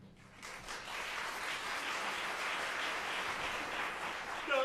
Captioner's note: applause